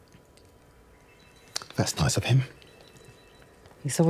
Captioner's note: phone ringing